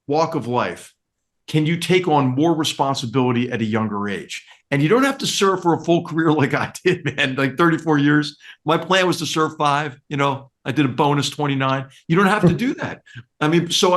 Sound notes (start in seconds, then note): 6.2 laugh